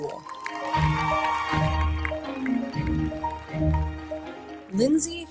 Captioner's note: audience applauding; audience cheers